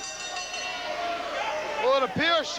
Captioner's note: bell ringing